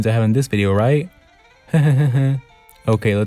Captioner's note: nervous Laugh